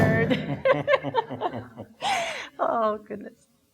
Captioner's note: laughing